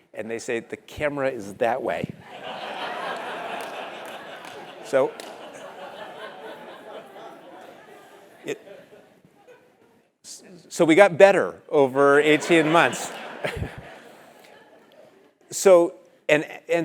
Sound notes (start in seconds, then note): 6.0 laugh; 12.2 laugh